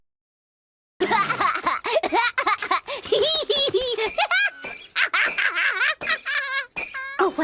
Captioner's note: laughing like a lunatic